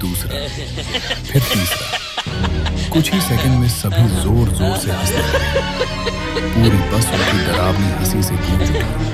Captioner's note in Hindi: हंसी